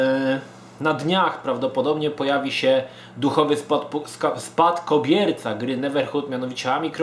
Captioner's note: stutters